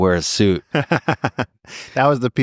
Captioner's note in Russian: смеётся